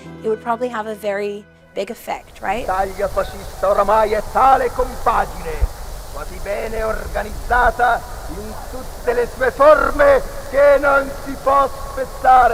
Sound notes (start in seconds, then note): 2.8 Mussolini speaking in foreign language